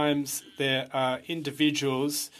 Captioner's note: speaking french